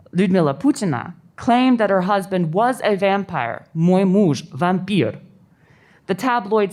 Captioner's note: russian